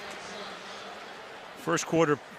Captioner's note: pa announcement